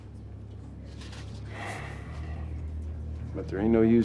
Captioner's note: sighs